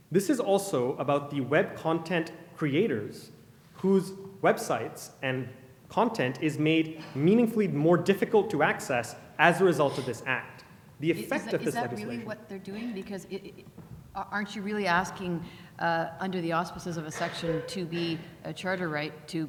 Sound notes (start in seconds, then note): 11.1 voiceover